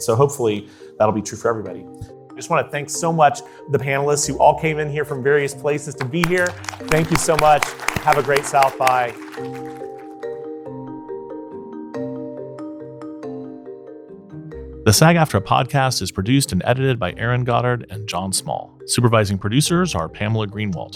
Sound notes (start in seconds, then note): 10.1 audience applauding; 12.0 light music